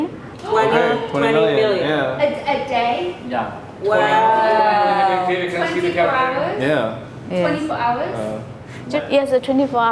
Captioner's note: gasp